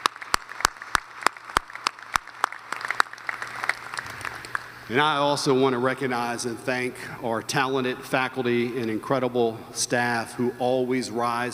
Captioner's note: applause